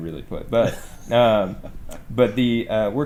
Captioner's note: laughs